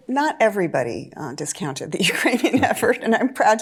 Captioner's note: chuckling